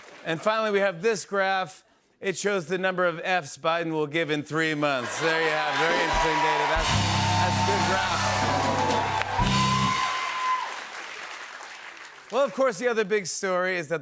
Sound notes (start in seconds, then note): 8.3 cheers and applause; 9.6 band plays chord